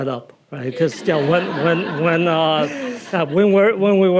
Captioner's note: audience laughing